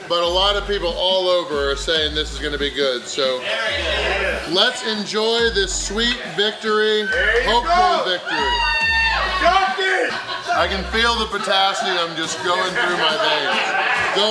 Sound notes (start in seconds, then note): 4.0 crowd; 9.5 crowd cheering